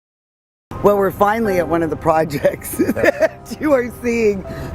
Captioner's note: laughs